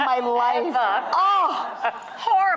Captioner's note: Sharon is drowned by laughter